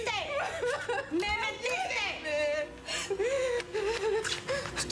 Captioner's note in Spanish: llanto; llanto